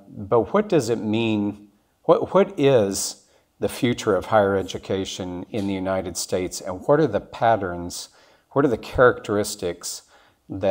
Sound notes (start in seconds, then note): none